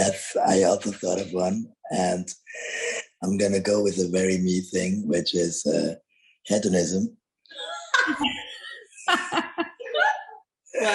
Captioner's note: all laugh